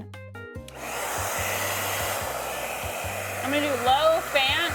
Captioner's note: hair dryer whirring